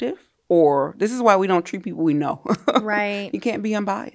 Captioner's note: laughs